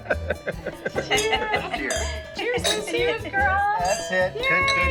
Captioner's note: laughing; guests chattering